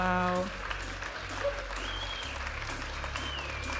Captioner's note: audience applauding and cheering; upbeat music